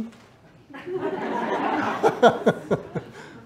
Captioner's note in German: Publikum lacht